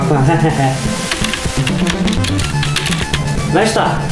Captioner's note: keyboard clicking